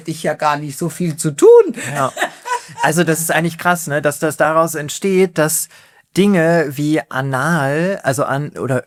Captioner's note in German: gelächter